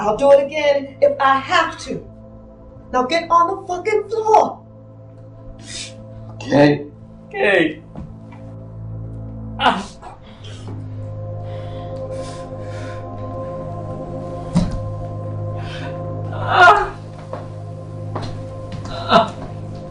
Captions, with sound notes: - I'll do it again if I have to. Now get on the fucking floor. - Okay. Okay. (groaning) (ominous music) (whimpering)